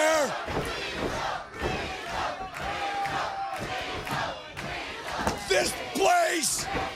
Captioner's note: crowd cheering